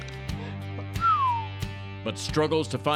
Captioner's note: whistles